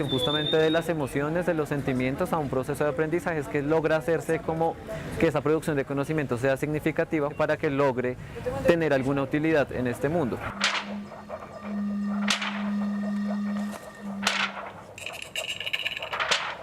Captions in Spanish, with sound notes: justamente de las emociones, de los sentimientos a un proceso de aprendizaje es que logra hacerse que esa producción de conocimientos sea significativo para que logre tener alguna utilidad en este mundo. [Sonidos con objetos que imitan una tormenta que se acerca].